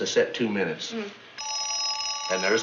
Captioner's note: phone rings